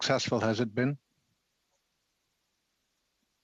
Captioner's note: speaking French